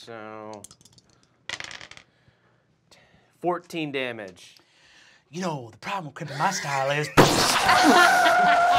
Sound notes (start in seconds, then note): 7.2 explodes; 7.4 laughing